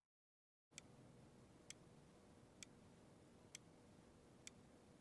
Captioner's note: clock ticking